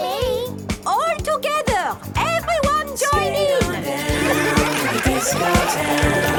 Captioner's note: laughter